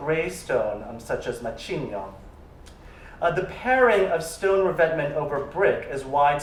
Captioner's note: non-english